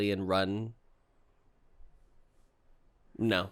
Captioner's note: silence